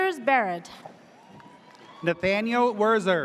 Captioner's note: audience cheers